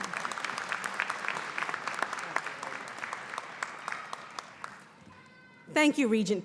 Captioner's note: applause